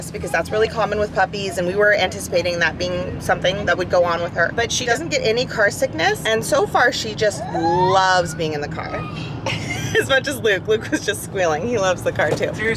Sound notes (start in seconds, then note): 9.2 laugh; 9.4 squeal